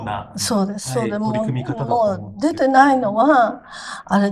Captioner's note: laughs